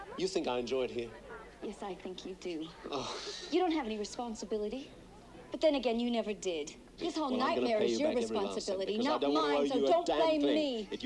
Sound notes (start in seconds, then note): 3.1 Ian sighing